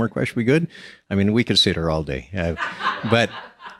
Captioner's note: laughs